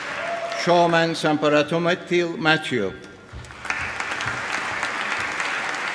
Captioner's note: applause